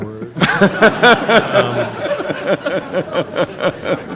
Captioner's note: laughter